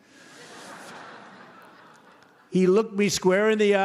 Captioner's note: laughter